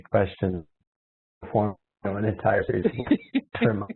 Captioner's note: laughs